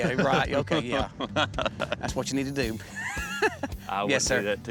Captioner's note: laughing